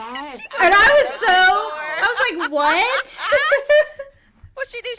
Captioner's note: laughing